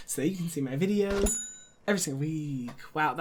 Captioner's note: bell dings